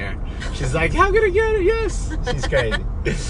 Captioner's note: yells